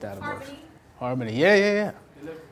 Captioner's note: voiceover; voiceover